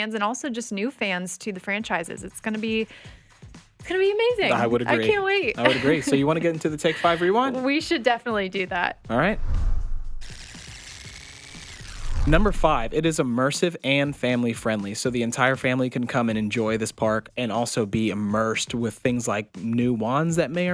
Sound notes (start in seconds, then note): 10.3 tape rewinding